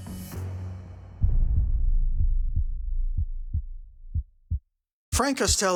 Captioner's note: heart beating